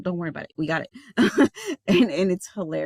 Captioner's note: laughing